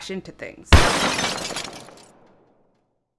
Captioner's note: loud crashing noise